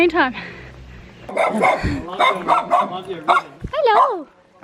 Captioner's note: dog barking